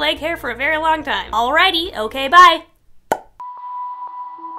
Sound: popping sound made with mouth

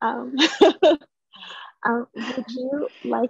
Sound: laughter

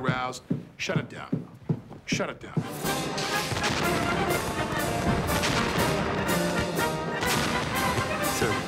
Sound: fireworks exploding, patriotic music playing

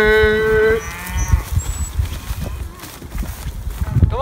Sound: cows moo in response

